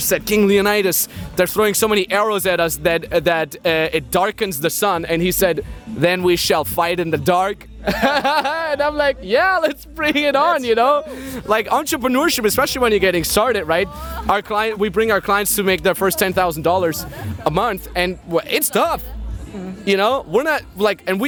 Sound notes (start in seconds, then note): 7.8 both laughing